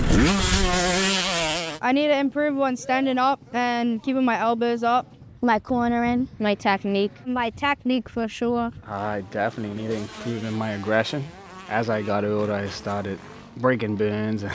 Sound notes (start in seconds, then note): none